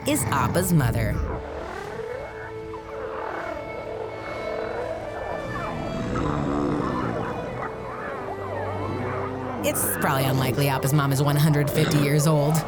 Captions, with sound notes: Appa's mother. [grunting] It's probably unlikely Appa's mom is 150 years old.